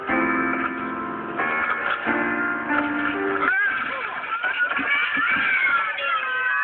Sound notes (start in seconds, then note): 3.4 all yelling; 4.4 all gasp